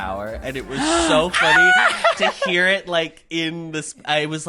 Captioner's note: gasps and screams